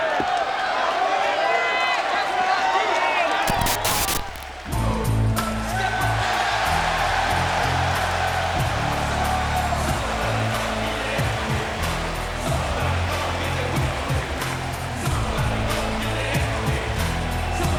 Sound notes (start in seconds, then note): 5.0 crowd cheers; 5.0 gangster rap music